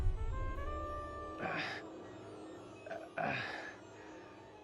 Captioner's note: grunts, pants